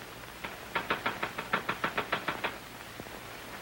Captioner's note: typewriter keys clicking